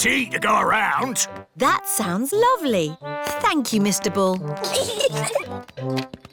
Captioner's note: peppa and george giggle